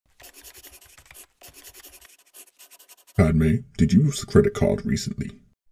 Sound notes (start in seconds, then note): 0.1 scribbling noises; 0.2 typing noises